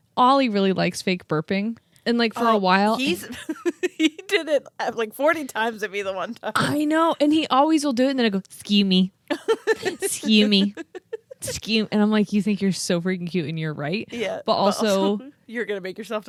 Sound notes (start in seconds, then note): 2.4 laughing; 9.3 laughs